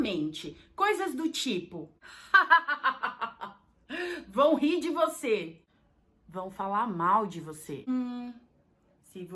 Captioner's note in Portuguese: risos